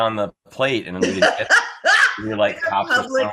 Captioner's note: laughing